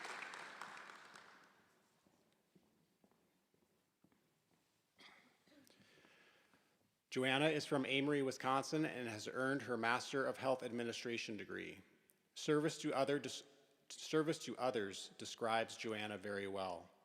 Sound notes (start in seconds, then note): 1.9 applause